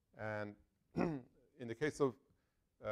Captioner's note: cough